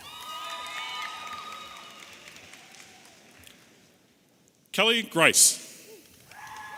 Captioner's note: audience applauding and cheering